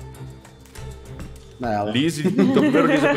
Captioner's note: laughs